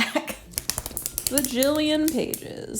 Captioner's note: pages flapping